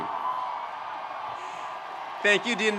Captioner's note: graduates cheering